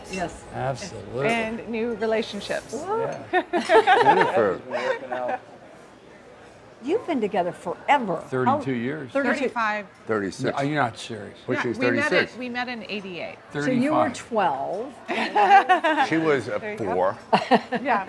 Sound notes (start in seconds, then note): 3.3 girls chuckle; 14.8 chuckles